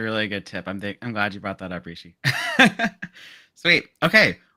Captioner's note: laughs